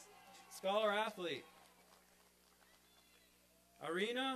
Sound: applause

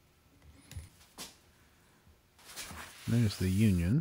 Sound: silence

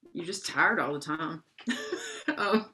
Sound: laughs

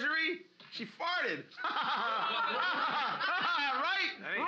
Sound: loudly laughing

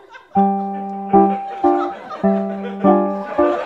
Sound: audience laughter

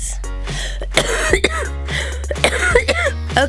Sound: coughing

